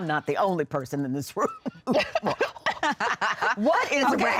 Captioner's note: laughter